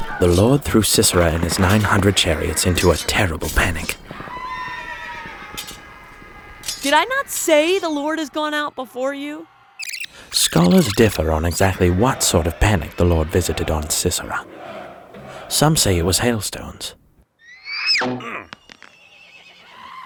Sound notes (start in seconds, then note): 4.2 horses whinnying; 4.2 men screaming; 9.8 tape rewinding; 18.0 Sisera grunts